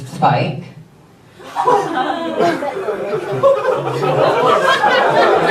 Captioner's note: audience reacts and laughs